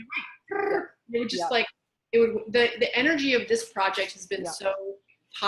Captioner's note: makes buzzing noise